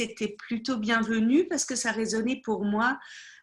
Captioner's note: speaking French